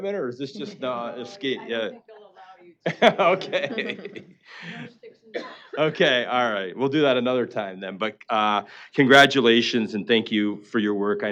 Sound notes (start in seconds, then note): 3.2 laughing